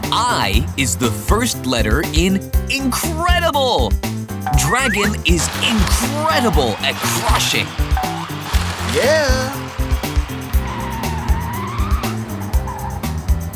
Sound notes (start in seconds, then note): 8.2 crushing; 10.9 screeching